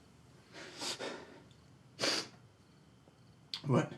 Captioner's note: Isaac sniffles and gasps